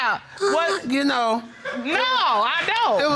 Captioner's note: moaning